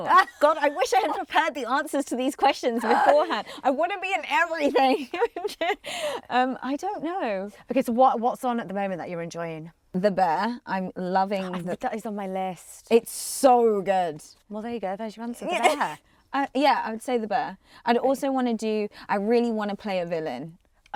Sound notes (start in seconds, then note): 5.9 laughs